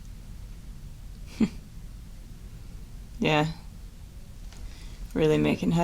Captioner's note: chuckles